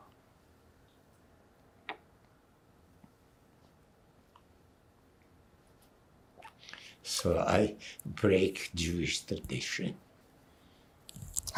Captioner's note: pauses 6 seconds